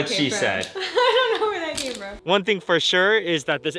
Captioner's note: chuckles